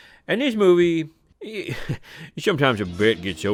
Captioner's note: laughs